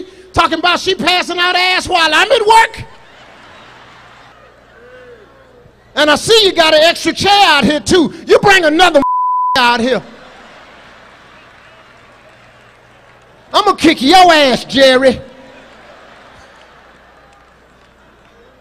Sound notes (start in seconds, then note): 9.0 beep; 10.0 audience laughs; 15.2 audience laughs